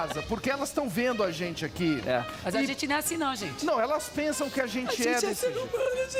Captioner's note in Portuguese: risos